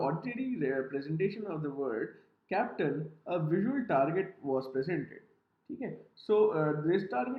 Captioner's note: professor speaks in Hindi